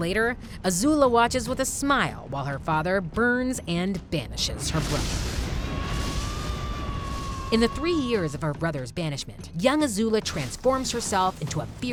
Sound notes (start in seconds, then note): 4.6 flames roaring; 5.4 Zuko screaming